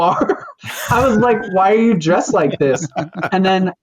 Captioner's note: laughter